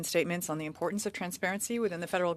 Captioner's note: speaking French